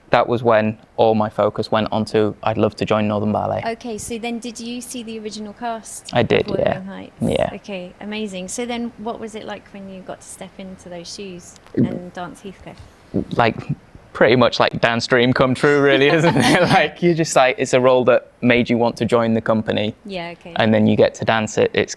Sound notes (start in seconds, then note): 15.6 laughs